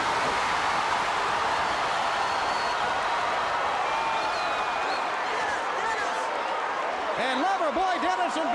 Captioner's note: crowd cheering